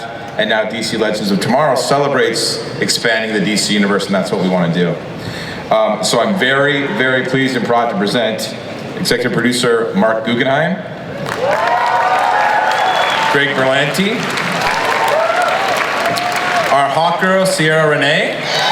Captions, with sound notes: and now DC Legends of Tomorrow celebrates expanding the DC Universe, and that's what we want to do. So I'm very very pleased and proud to present Executive Producer Marc Guggenheim, (audience applauds) Greg Berlanti, (audience applauds) our Hawkgirl Ciara Renee,